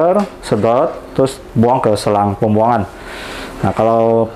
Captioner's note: printer machine sound; inhale